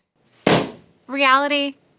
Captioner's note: balloon pops